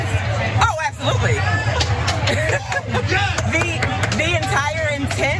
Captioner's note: applause